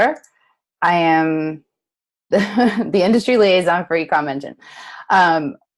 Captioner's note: chuckles